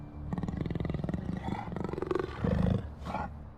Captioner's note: low growl of the snow leopard